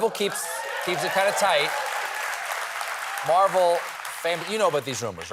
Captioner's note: applause